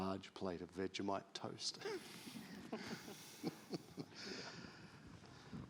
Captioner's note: all laughing